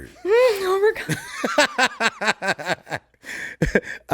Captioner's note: laughs